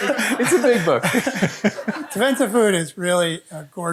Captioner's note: audience laughing